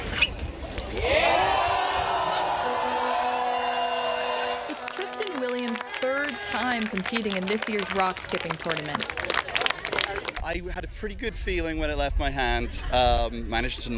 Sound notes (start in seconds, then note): 7.7 cheers